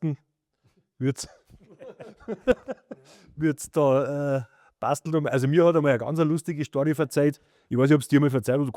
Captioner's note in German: gelächter